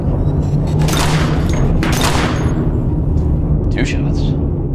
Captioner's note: gun fires